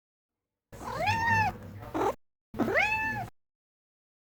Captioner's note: cat meows twice